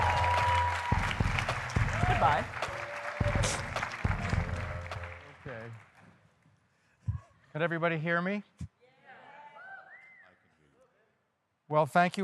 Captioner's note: applause